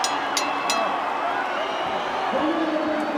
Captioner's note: bell rings